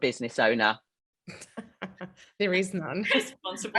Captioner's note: laughing